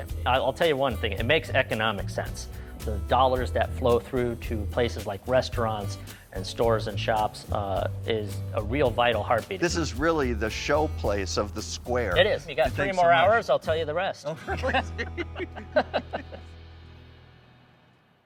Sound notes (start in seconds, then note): 14.4 both laughing